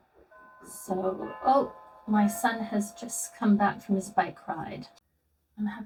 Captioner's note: doorbell rings